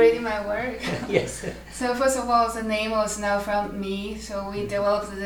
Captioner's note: laughs